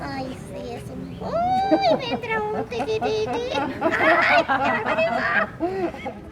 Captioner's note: puppet voice